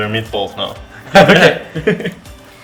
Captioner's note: laugh